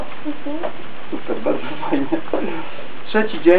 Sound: laugh

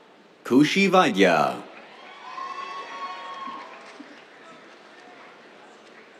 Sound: cheers, applause

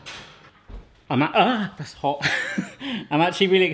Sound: laughs

